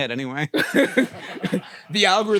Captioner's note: group laughs